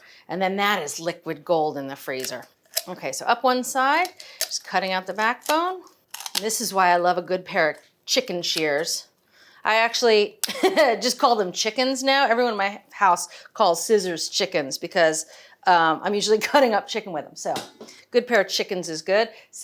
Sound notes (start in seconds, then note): 10.3 laughs